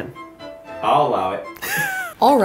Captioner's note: laughs